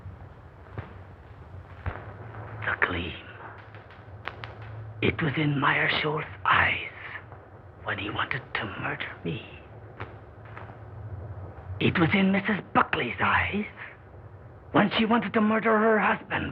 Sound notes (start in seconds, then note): 2.6 whispering